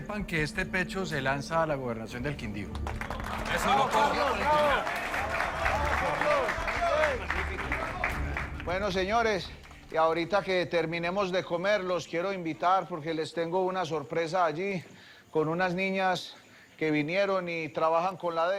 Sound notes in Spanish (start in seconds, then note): 2.1 Aplausos